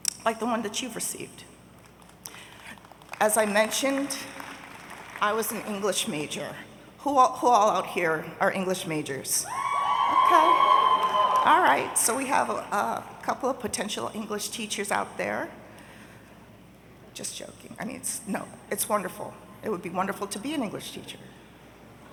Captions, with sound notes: like the one that you've received. (audience applauding) As I mentioned, I was an English major. Who all out here are English majors? (audience cheering) Okay, all right, so we have a couple of potential English teachers out there. Just joking, I mean, it's, no, it's wonderful. It would be wonderful to be an English teacher.